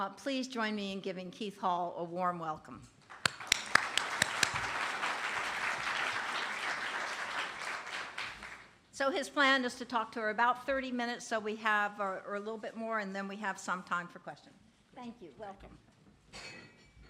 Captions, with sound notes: Please join me in giving Keith Hall a warm welcome. [APPLAUSE] So his plan is to talk for about 30 minutes, so we have a little bit more. And then we have some time for questions. Thank you, welcome.